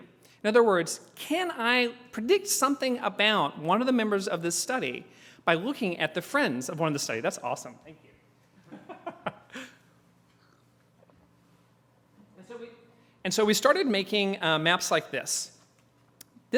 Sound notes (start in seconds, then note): 8.0 laugh